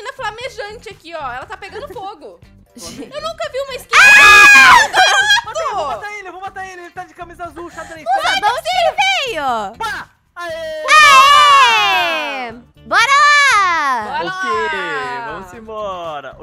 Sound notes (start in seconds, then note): 2.2 rindo ao fundo; 3.9 screaming